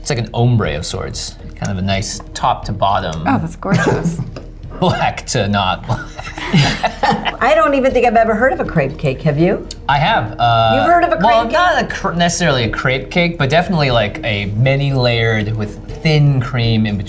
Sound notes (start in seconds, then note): 6.8 laughs